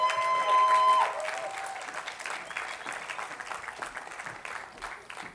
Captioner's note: attendees applauding